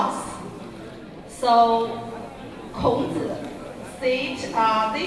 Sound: crowd cheers and applauds

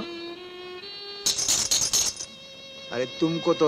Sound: bangles clinking

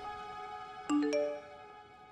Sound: phone beeps

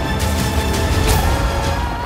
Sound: screams

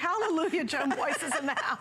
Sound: laughter

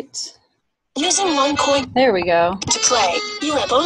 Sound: voiceover

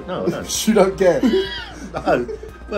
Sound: both laughing

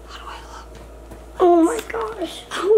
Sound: whispers

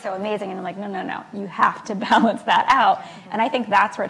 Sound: laughs

